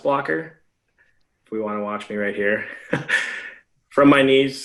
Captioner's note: laughs